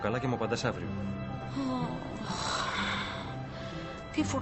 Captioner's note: stella sighs